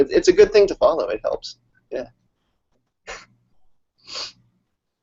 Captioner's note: laughs